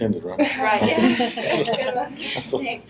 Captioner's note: laughter